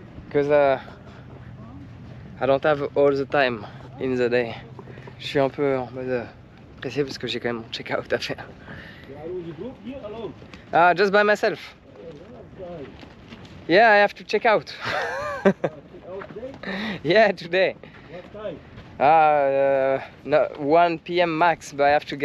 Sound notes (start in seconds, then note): 6.1 speaking in foreign language; 14.8 laughs